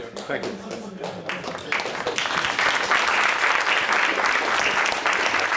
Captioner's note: applause